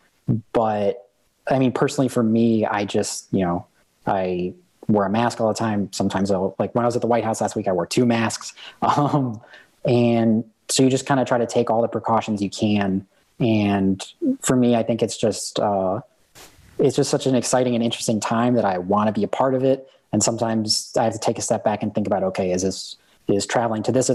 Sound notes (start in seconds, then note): 8.5 chuckle